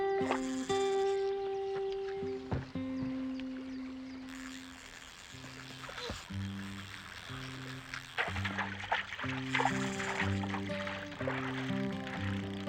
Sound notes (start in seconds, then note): 6.7 line whirring